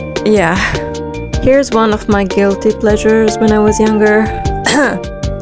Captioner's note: cough